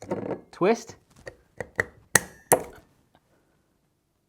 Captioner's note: metal clanking